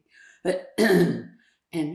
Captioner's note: clears throat